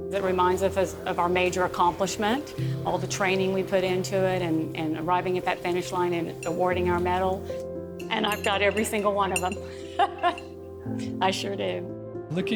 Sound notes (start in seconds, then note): 9.7 laughs